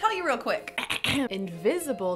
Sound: clears throat

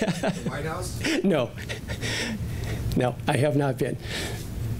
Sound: laughing

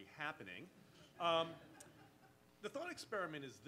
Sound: audience laughs

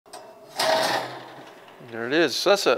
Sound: metal clangs

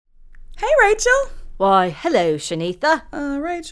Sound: In a British accent

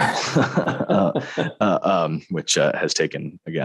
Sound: both laughing

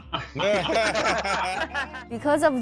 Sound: audience laughing

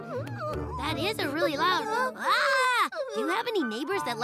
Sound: hollers

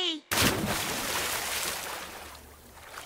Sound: big splash

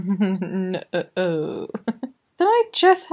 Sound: laughs

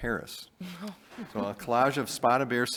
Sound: board member laughing happily

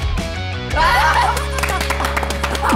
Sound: laughing

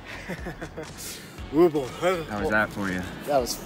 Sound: laughter

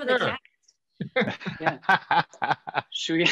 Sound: all laugh

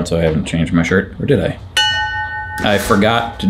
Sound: bell ringing

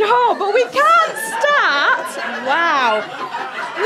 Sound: audience laughter

